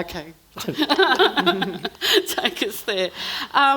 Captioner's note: everyone laughing